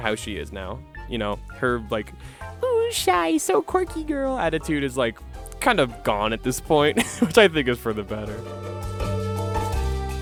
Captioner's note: laughing